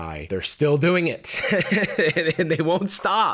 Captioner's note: slightly unhinged laugh